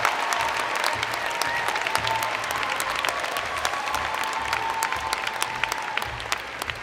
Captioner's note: cheers and Applause